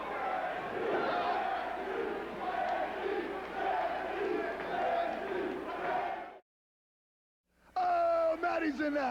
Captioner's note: crowd cheering